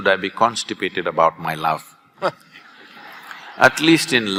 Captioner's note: laughter